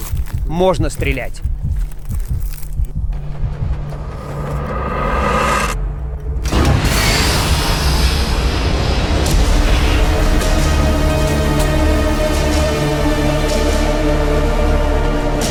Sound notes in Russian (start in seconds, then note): 1.6 стук сердца; 6.5 выстрел